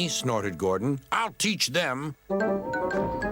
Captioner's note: whistles